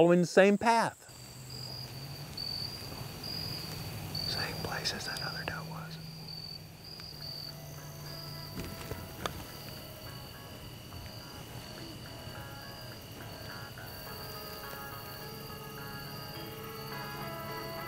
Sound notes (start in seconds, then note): 3.8 whispering